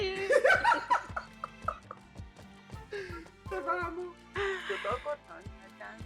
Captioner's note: laughs